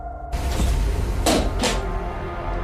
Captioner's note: clanking